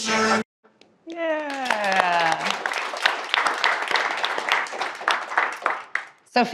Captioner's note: audience applauding